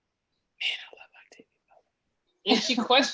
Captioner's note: Whispers, Man I love Octavia Butler